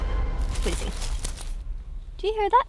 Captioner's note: rustling